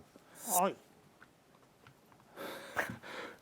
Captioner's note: ahem